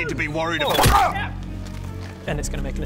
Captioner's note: smack!